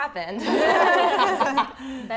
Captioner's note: laughter